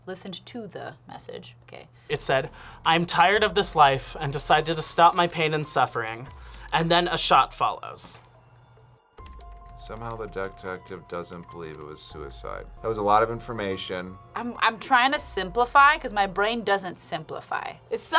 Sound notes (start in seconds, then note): none